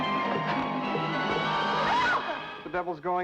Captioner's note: scream